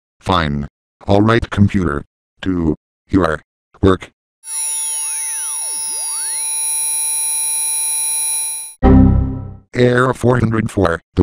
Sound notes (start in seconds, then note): 4.4 scanning sounds; 8.8 Windows XP Critical Stop